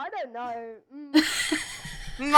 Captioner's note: laughs